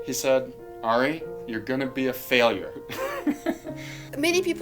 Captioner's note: laughs